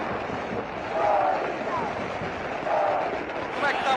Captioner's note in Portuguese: Torcida gritando